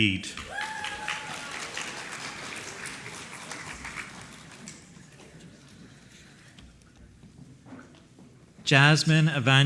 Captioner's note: applause